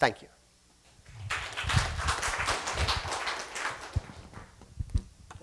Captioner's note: applause